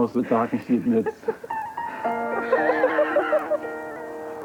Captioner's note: laughing